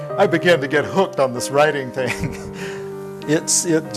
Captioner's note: laughing